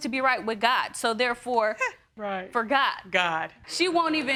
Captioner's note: scoffs